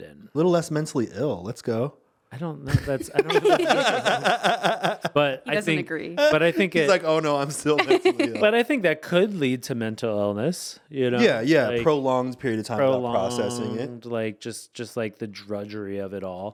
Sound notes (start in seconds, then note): 3.0 laughing; 7.8 laughing